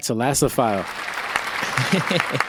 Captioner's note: applause effect